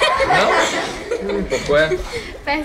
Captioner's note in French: rires